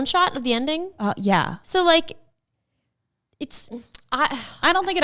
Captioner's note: sighs